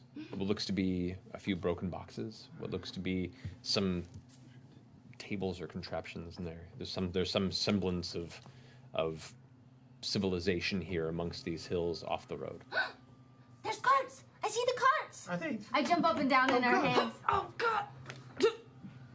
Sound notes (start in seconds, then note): 13.0 gasps; 17.8 pained noises